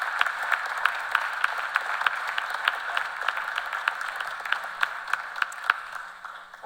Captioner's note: applause